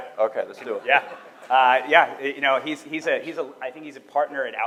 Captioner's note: audience laughing